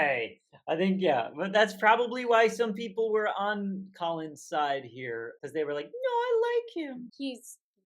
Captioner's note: falsetto